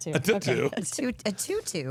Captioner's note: laughing